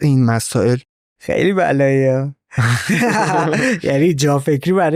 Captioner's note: laughs